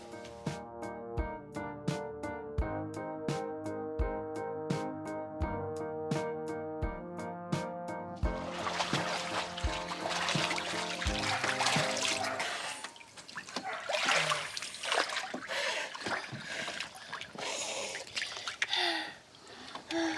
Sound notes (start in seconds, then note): 0.2 calm music; 8.6 water splashing; 15.4 deep breathing